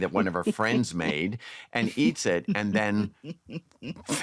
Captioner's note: laughter